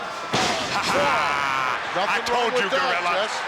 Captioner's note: Jesse laughs